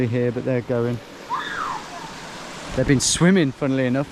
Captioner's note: child squeals